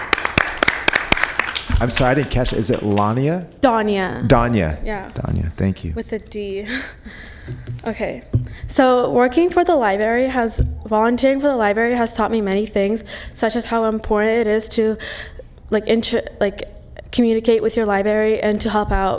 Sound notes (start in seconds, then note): 3.1 applause